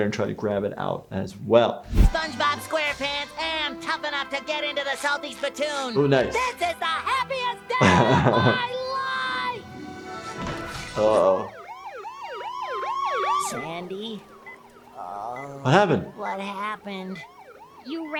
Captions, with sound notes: and try to grab it out as well. - Spongebob SquarePants am tough enough to get into the Salty Spitoon. - Uh nuts. - This the happiest day of my life. (upbeat music playing) - Oh oh (siren wailing) - Sandy,... (groaning) - What happened? -...what happened?